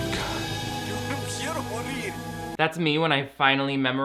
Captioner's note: man speaking Spanish